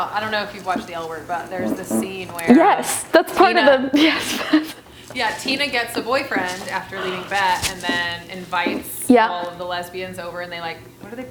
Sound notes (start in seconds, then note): 3.2 chuckling